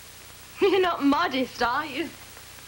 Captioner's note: jill laughs